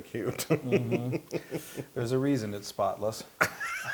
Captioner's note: laugh; laugh